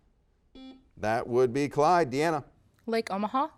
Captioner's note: buzzer beeps